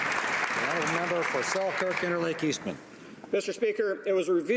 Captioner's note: applause